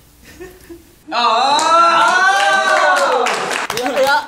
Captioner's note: claps